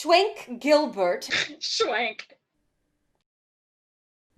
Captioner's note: snorts